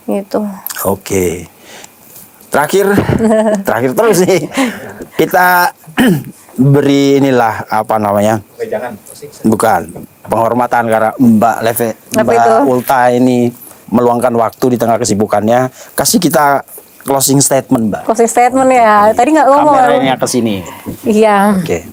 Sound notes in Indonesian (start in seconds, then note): 4.0 tertawa